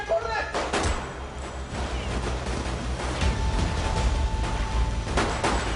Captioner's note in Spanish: Disparos